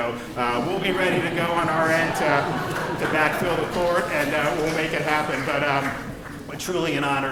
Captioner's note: laughter